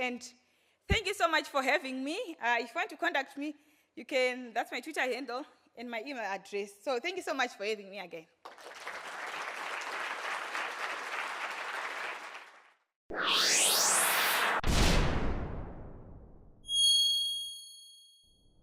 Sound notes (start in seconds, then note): 8.4 audience applauds